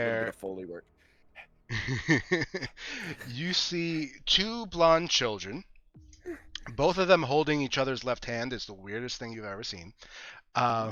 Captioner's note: panting